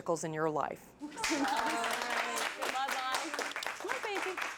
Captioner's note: clapping